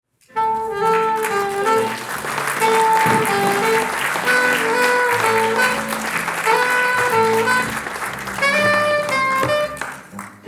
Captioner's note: applause